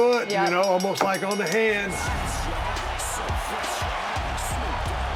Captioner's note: bell ringing